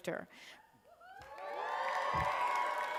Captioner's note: cheers